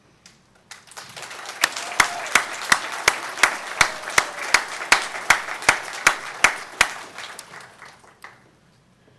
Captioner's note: applause